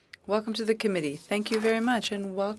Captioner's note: speaking French